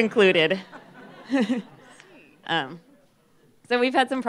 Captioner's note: laughter